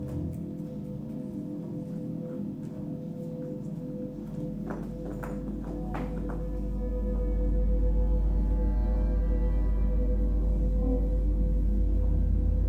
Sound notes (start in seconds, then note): 4.6 objects clattering